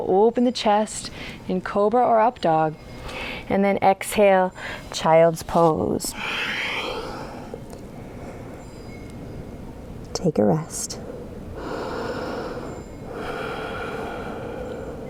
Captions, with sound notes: and then exhale, Child's Pose. Take a rest. (breathing deeply)